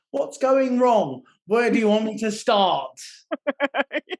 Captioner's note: laughing